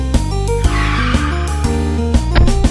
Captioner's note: screeching tires